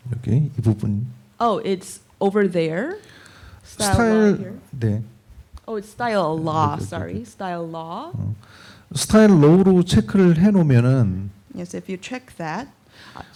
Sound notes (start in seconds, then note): 0.2 speaking korean; 8.7 speaking korean; 13.1 speaking korean